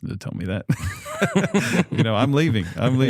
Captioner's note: laughter